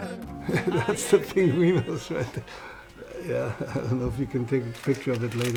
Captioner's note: laughing